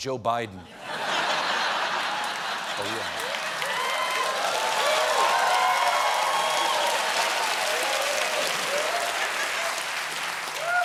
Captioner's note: laughter; cheers and applause